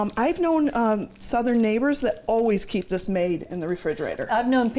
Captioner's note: none